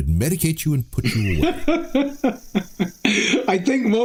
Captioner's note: laughing